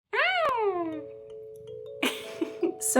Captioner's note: meowing; laughing